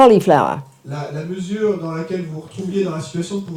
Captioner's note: speaking in French